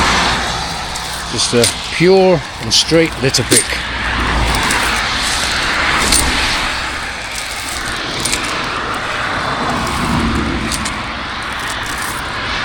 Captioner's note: road noise